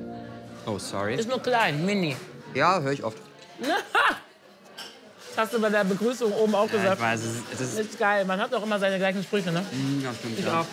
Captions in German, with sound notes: Oh, sorry. - Ist nur klein, mini. Ja, hör ich oft. (Sie lacht.) Hast du bei der Begrüßung auch gesagt. Ist geil, man hat immer seine gleichen Sprüche.